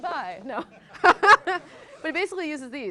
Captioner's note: laughs